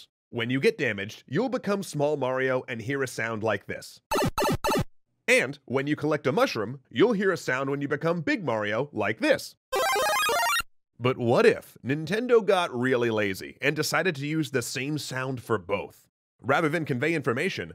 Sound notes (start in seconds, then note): 4.1 Super Mario Bros power down sound; 9.7 Super Mario Bros power up sound